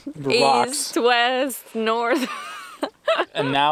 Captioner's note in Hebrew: צחוק